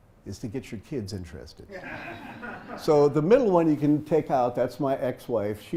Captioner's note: laugh